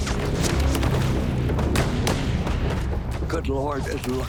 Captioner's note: gunfire